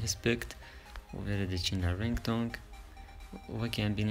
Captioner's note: Ringtone